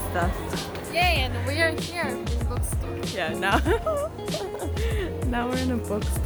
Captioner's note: laughs